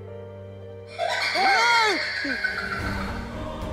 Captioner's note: maniacal laugh